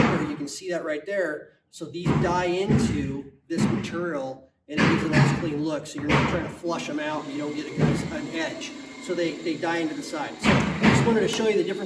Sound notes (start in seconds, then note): 3.7 crew hammering; 6.0 crew drilling